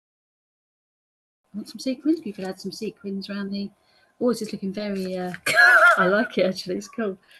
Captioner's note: laughs